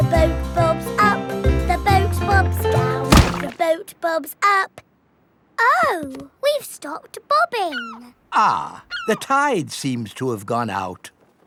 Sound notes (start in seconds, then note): 3.1 thuds